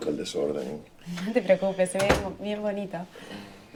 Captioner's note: door Closing